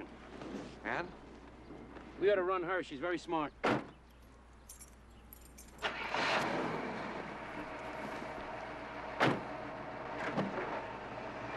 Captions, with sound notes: AND? WE OUGHT TO RUN HER. SHE'S VERY SMART. [car engine starting]